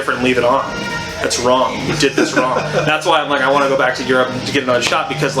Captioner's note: laughs